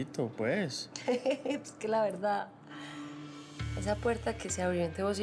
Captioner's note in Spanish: ella ríe